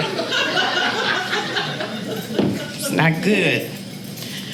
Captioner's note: audience laughing